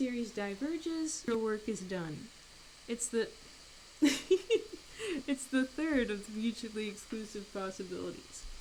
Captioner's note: laughs